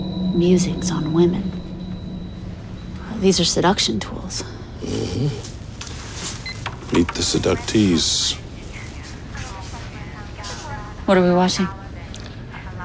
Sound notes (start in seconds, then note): 9.2 indistinct chatter